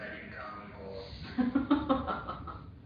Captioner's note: laughter